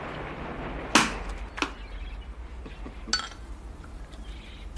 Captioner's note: corks pops